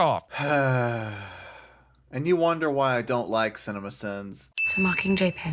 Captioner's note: sigh